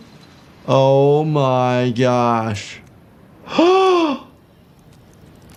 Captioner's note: gasps